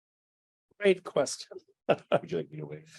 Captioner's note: laughs